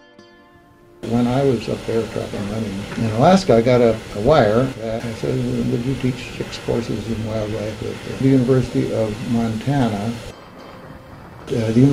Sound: archival audio

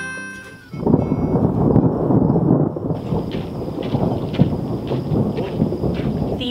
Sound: thunder

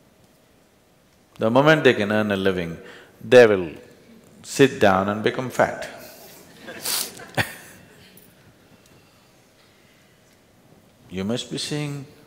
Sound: few Laugh

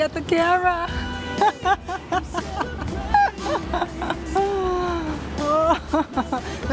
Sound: laughs

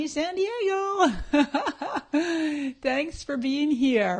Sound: laughing

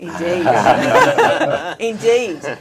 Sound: laughing

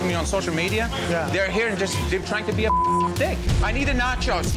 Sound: beep

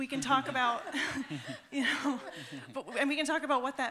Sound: laughter

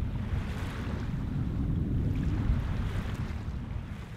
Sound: gentle waves

